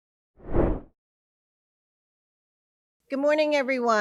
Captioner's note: whooshing sound